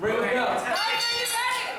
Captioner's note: bell rings